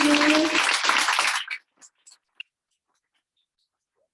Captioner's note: audience applauding